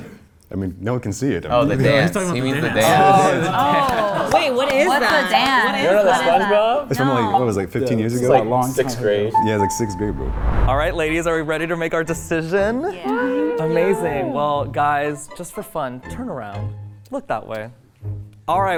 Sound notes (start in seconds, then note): 13.0 women cheering